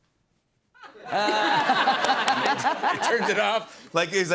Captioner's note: laughter